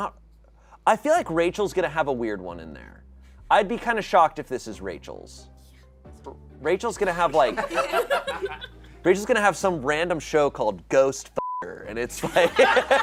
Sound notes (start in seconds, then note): 7.4 audience laughing; 11.4 beep; 12.2 audience laughing